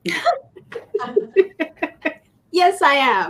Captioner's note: laughing